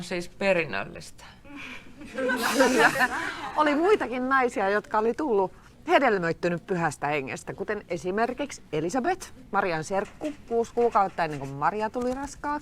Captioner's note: laughter